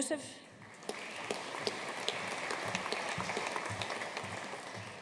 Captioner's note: audience applauding